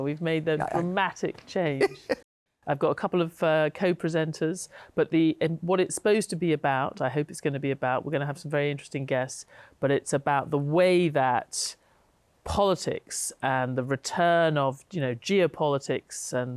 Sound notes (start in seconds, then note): 1.7 laughs